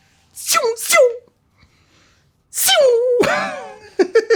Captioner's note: flying bullets